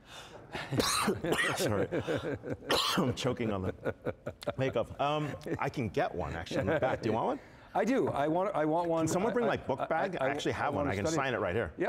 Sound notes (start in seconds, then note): 0.6 coughs; 1.6 audience laughing